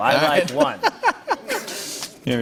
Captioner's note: laughter